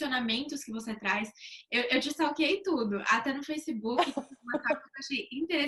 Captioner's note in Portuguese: risos